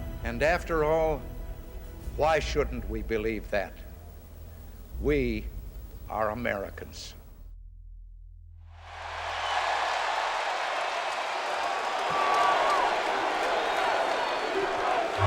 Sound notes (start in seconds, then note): 8.7 crowd cheering